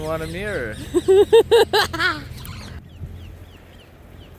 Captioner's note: laughs nervously